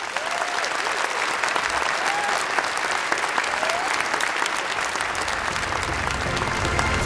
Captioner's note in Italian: Applausi